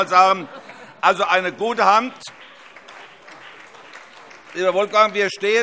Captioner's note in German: Beifall